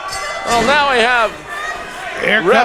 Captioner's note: bells dinging